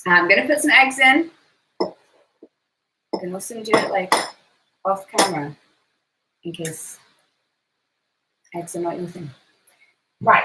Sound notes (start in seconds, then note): 4.1 glass clanking